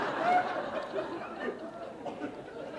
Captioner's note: laughter